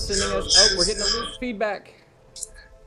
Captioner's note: audio echo